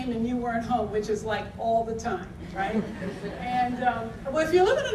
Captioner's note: audience laughter